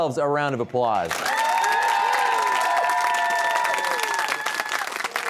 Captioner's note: cheers and applause